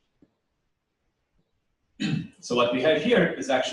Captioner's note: pause